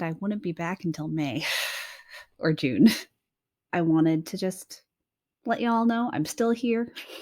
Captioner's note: chuckles